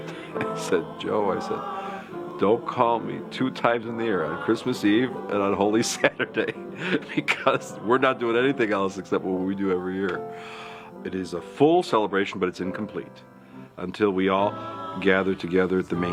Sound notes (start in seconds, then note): 5.8 laughs